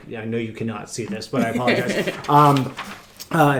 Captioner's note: laughing